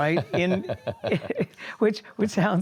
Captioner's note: laughs